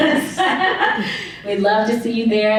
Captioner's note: laughs